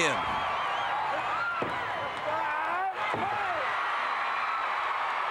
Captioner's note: audience cheering